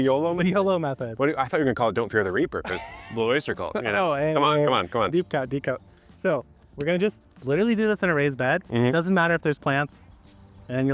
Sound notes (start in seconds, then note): 2.6 laughing